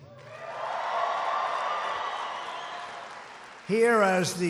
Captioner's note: applause